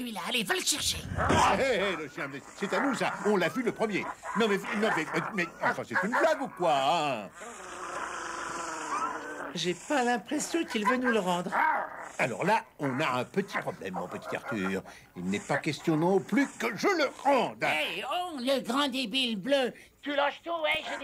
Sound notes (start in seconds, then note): 5.9 growling; 15.8 stammering